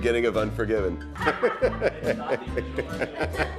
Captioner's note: laughing